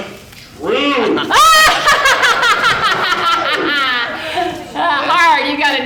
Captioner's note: audience laughing